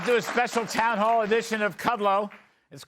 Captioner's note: applause